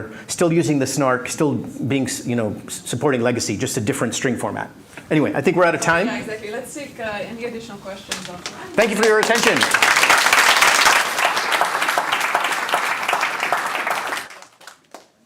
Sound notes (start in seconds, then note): 10.4 applause